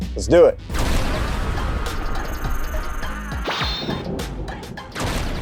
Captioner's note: thunder crashing